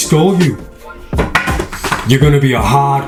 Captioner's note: stick hits floor